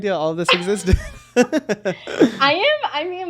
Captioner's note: both chuckling